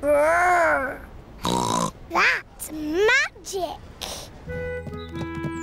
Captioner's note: snorts